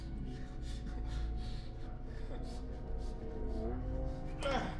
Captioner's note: heavy breathing